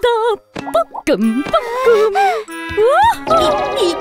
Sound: giggles

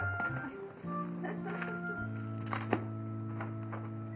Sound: chuckles

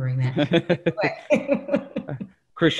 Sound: laughs

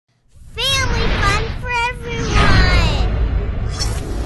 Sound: child's Voice

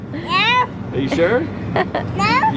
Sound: laughter

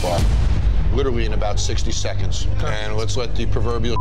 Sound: impact slamming; beeping

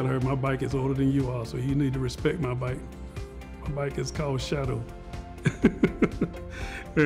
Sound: laughter

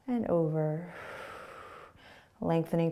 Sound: exhaling

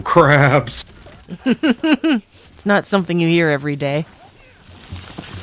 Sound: laughing

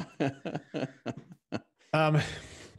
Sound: laughs

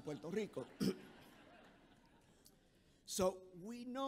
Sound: audience chuckles

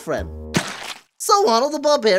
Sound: splat

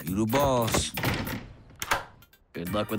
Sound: lock clicks

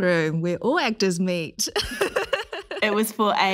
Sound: laughs

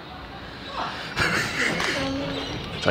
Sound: laughing

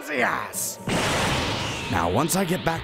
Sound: power up sound

